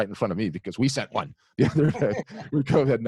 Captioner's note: laughs